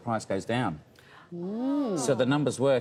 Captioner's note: interviewers gasp in awe